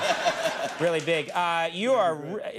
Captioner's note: all laughing